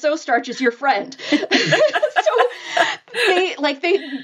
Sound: laughing

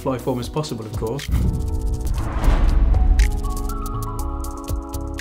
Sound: whooshing effect

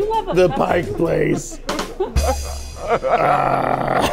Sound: laughing

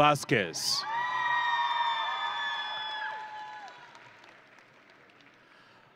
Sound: audience and graduates cheering

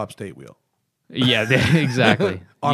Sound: laughter

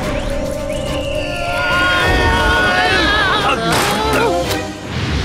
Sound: all scream

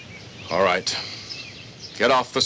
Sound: sighs

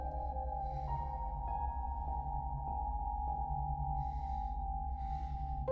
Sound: Abilene breathes uneasily

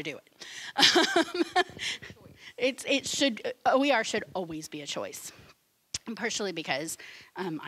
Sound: laughing

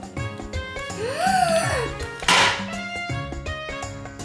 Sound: giggling; gasping; lunchbox clangs; cheerful music

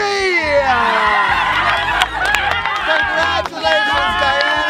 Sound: cheering

